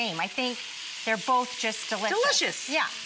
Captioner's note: none